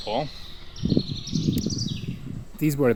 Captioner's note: air whooshing